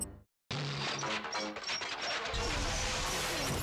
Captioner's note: whirring